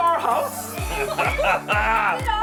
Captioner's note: laughs